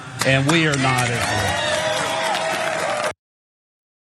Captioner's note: applause